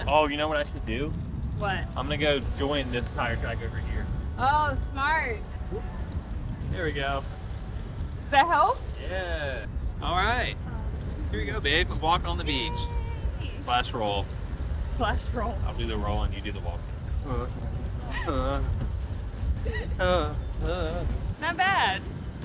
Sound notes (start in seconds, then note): 19.6 laughing; 19.7 vocalizing